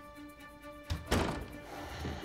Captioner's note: the door closing sound